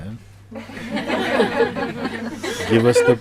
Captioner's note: laughter